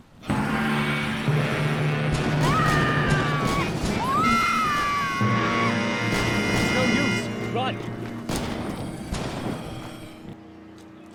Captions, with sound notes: (ominous music) (Lisa screaming) (gun firing) It's no use, run!